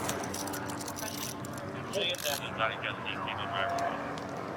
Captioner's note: dispatch chatter